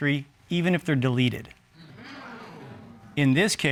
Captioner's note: audience exclaiming